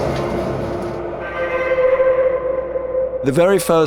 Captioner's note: discordant horn